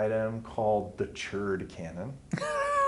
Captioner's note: laughs